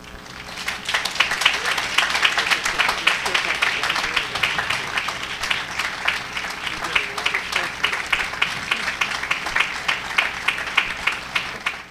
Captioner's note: applause